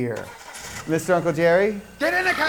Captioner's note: car engine roaring